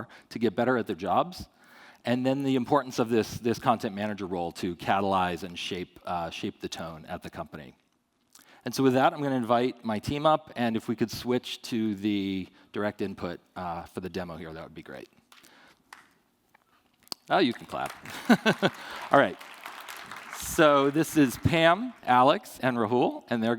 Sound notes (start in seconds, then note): 15.6 faint applause; 17.4 applause